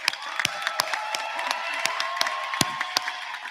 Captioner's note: applause